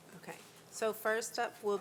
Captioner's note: none